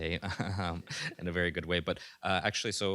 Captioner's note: laughs